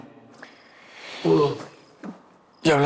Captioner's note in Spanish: Exclamación